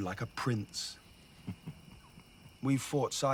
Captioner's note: Kjartan chuckles